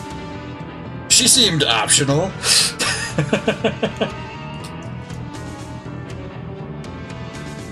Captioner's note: laughs